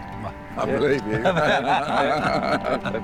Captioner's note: laughter